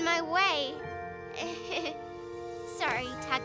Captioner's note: Tabitha giggles nervously